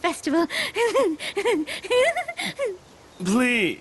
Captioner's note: giggle